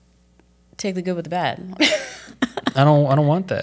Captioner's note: laughs